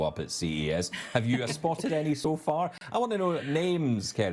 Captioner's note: chuckling